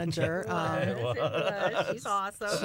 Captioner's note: laughter